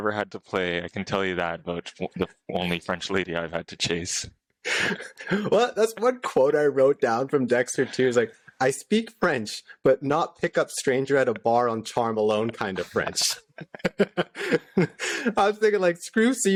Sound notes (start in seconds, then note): 4.7 laughter; 12.2 laughter